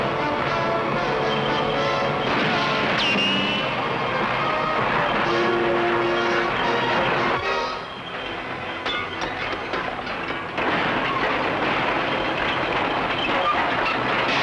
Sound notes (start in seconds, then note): 0.0 bulldozer roars and clatters; 0.0 dramatic music; 1.0 shots crack and whistle; 10.0 glass shatters